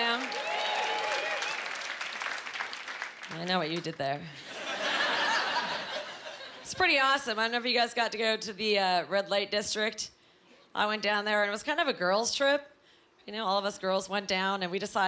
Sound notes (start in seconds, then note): 0.0 cheering; 4.3 laughing